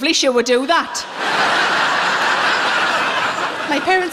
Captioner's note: laughing